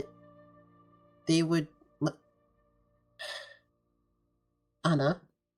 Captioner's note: sigh